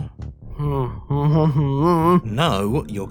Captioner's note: whimpers